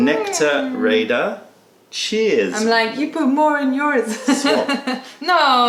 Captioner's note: laughter